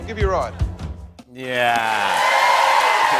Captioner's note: cheers and applause